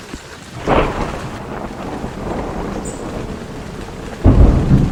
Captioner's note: thunder rumbling